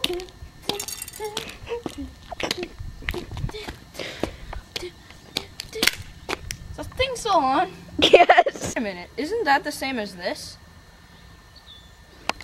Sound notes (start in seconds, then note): 7.9 laughing